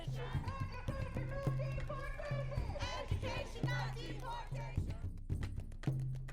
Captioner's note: crowd